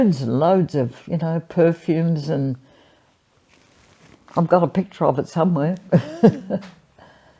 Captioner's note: laughs